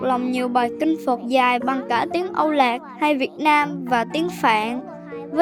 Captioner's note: Vietnamese